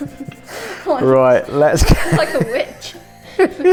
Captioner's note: chuckles; colouring sounds